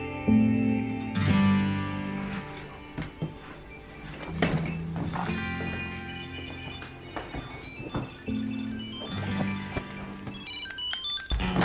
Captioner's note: phone makes beeping noises